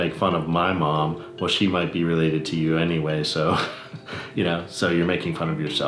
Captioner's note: laughs